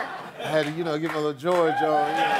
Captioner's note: cheers and applause